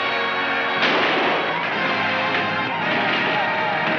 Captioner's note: gunshots firing